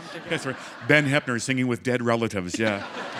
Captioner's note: laughter